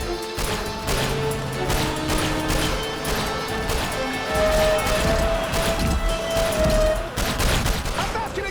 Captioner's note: gunshot